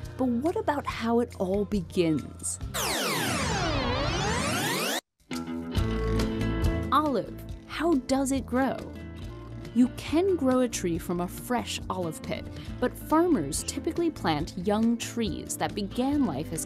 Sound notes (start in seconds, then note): 2.7 video rewinding sound; 5.9 upbeat music